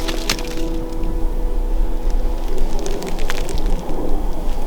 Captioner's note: airplane whooshing